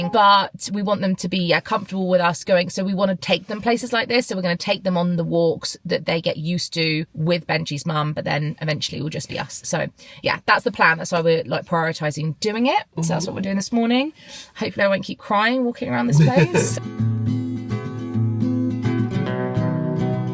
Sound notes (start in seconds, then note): 16.0 laughs; 16.1 gentle upbeat music